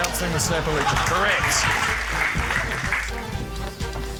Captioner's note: applause